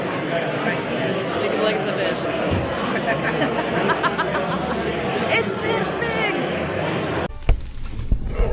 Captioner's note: laughing